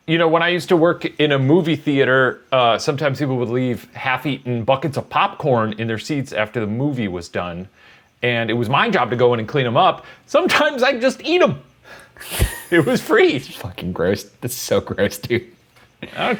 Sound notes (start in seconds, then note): 12.2 both laughing